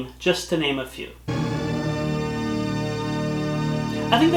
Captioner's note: part of the THX surround sound blast plays